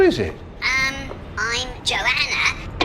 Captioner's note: through speaker